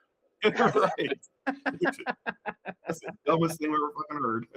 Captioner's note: laughing